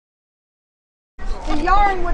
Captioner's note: none